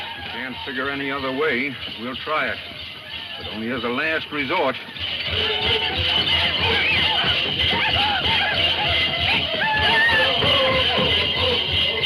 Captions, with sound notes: - Can't figure any other way. We'll try it, but only as a last resort. (drum music) (men chanting)